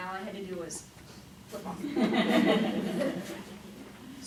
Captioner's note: laughing